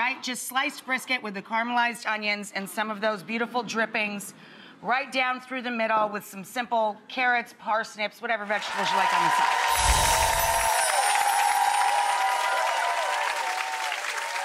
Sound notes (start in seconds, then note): 8.6 audience cheers; 9.6 bells chime